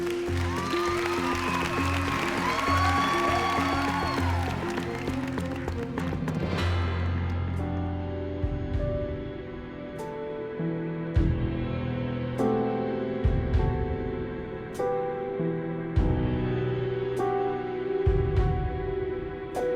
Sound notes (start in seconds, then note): 0.0 cheering; 2.6 applause